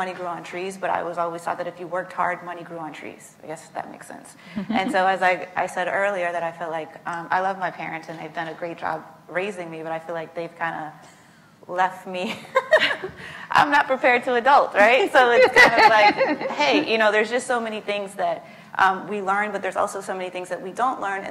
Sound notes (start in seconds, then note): 12.1 laughs